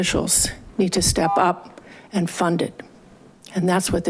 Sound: buzzer chiming

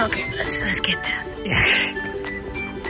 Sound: laughs

